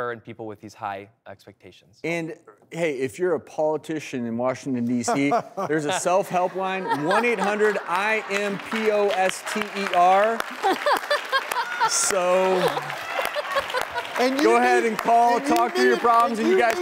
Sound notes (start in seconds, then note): 5.1 laughing; 10.8 clapping and laughing